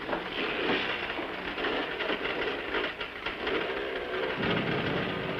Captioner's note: motorcycles engines revving